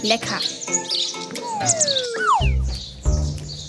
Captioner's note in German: Gezwitscher, abfallender Comic-Ton